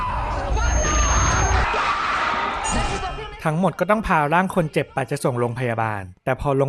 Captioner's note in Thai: เสียงกรีดร้อง